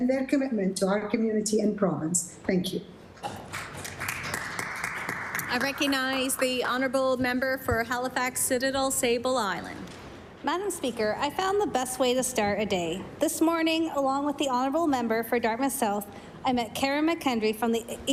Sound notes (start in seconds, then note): 7.5 applause